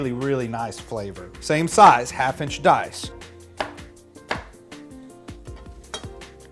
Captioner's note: knife whacking